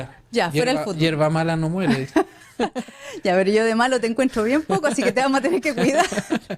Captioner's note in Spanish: risas